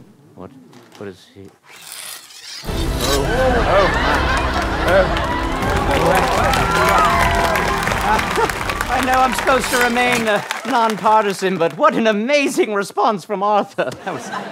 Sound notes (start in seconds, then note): 2.6 magical music; 6.2 applause